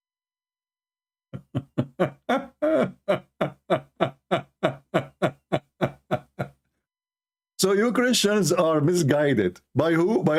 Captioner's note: Ketawa